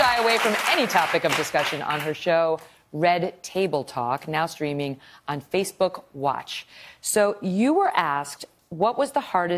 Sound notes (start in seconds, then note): 2.4 applause